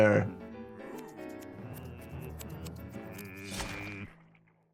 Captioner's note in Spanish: tijeras cortando; personaje padre tarareando; tijeras cortando